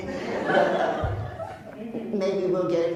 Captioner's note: laughs